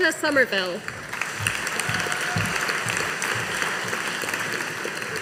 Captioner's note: audience applauding